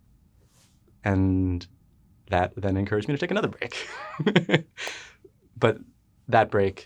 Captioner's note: laughs